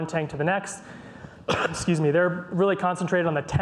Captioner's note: coughs